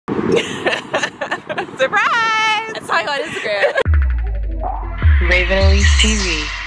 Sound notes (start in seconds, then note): 0.4 laughing; 3.8 upbeat digital music